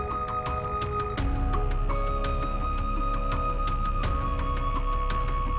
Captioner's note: none